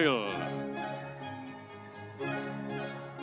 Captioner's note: audience cheering; energetic music